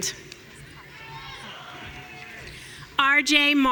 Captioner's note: audience cheering